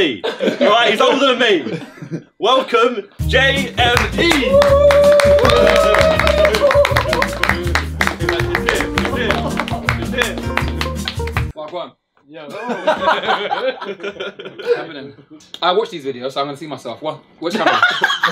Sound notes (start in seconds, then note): 3.2 upbeat music; 3.8 all cheering and clapping; 12.5 all laughing; 17.5 all laughing